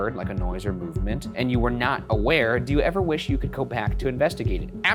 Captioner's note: none